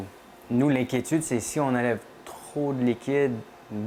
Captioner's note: speaking French